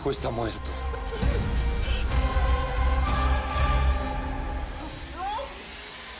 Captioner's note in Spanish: Llanto convulsivo de ella; Sollozos